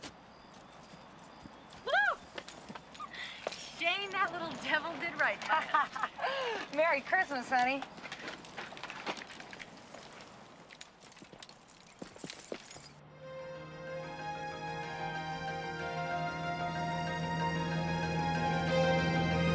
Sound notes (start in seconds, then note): 5.2 ladies laughing; 13.1 dramatic music